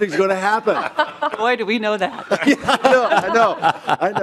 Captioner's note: laughing